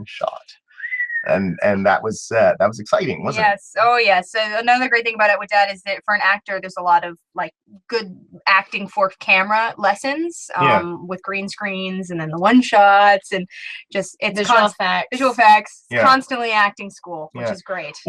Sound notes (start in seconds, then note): 0.7 whistles of admiration